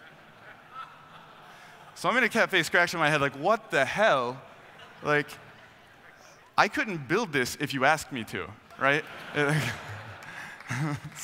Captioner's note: laughing